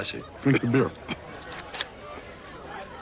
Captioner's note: can opening